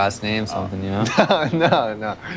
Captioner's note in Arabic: ضحك